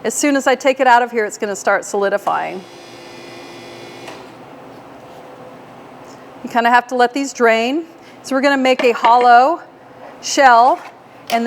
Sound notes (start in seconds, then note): 2.3 machine revving